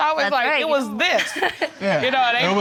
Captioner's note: chuckles